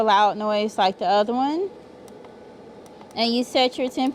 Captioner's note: machine whirring